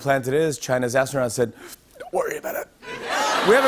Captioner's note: inhales sharply